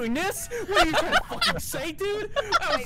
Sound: laughter

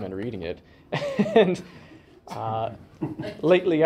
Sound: laughter

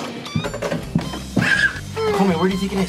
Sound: upbeat music; child screaming

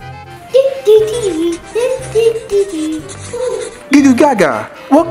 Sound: scribbling

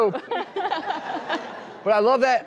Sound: laughs

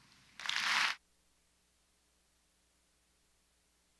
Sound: audience applauds

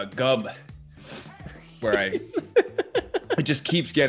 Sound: laugh

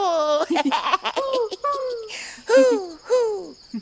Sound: laughing; hooting

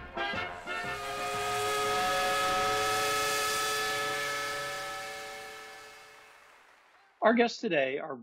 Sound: marching band music; steam whistle

